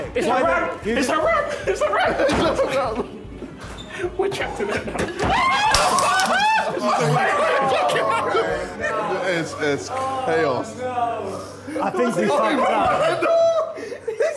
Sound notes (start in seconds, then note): 5.2 all screaming